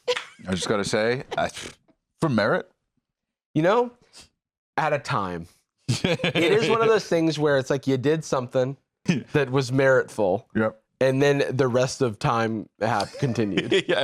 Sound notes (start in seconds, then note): 5.9 laughs